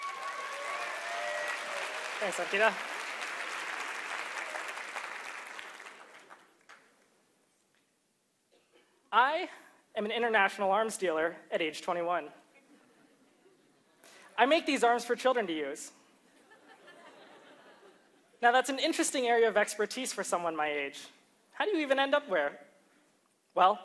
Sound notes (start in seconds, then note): 6.1 applause